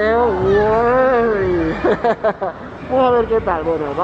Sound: laughs

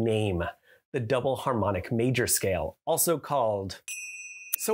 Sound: chime

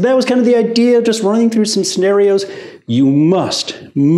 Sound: none

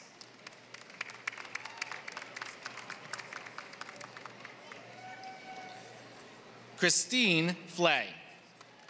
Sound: applause; applause

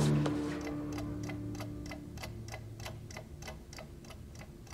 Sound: clock ticks

